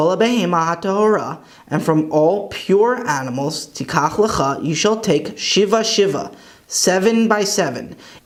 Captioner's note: Hebrew; Hebrew